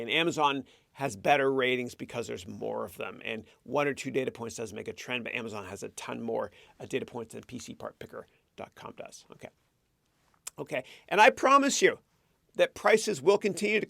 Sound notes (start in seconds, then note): none